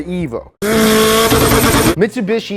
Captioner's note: car revving